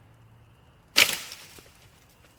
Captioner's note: Rustling nisse